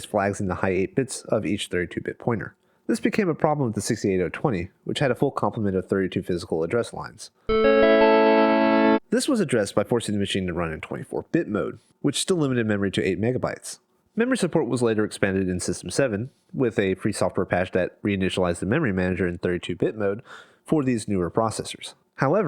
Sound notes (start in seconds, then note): 7.5 sad mac tone